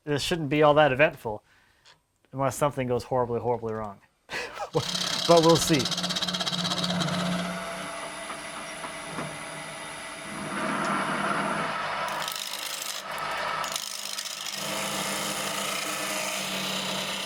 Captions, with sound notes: This shouldn't be all that eventful unless something goes horribly, horribly wrong. (man laughs) But we'll see. (drilling)